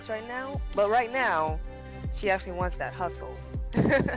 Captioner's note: laughs